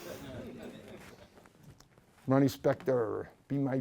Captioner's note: laughs